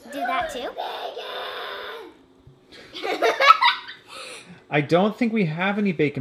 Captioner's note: giggles